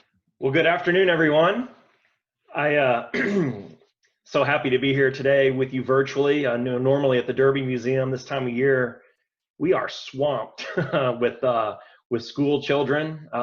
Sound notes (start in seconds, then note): 3.1 coughs